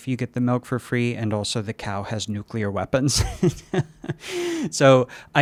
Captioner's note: laughs